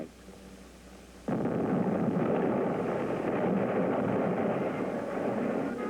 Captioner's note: dynamite exploding